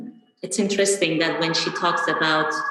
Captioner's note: sirens blaring